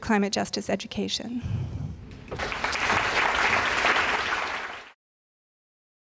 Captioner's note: applause